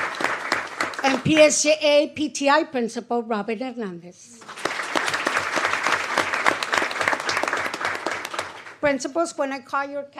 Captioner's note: applause; applause